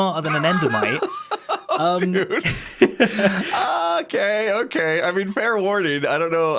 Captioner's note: laughs